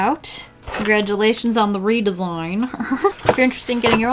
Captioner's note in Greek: Γέλια